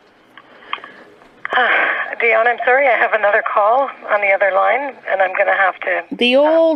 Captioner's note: sigh